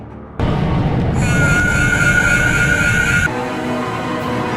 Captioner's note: screaming